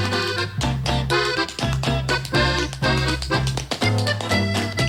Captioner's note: tap dancing